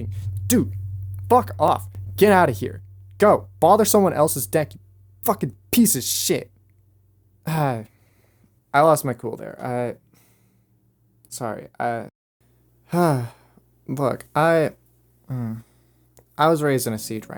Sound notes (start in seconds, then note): 0.0 microphone slams; 7.3 sighs; 15.3 sighs